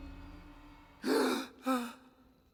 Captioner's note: gasp